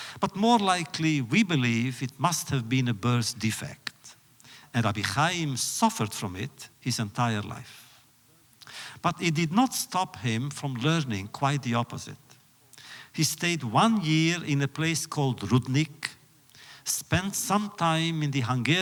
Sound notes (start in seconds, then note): none